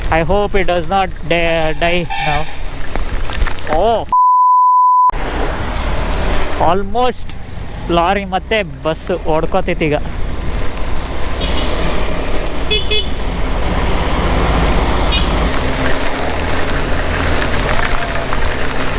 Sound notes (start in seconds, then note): 4.1 beep